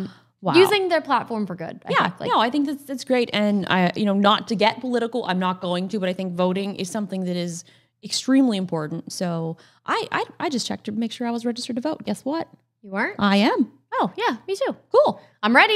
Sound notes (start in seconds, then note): none